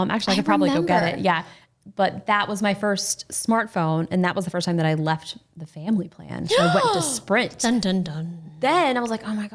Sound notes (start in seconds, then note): 7.8 gasps